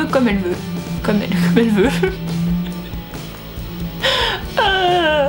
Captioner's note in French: rires